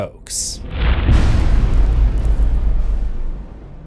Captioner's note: impact